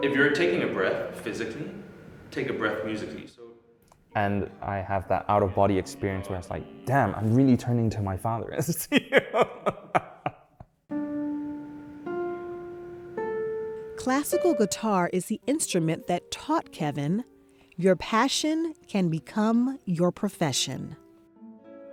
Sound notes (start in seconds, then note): 8.6 laughs; 11.0 gentle guitar notes